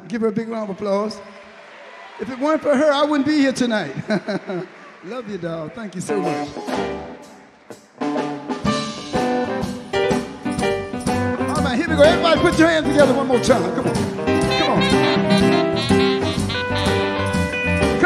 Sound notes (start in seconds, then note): 0.4 audience clap; 6.7 upbeat music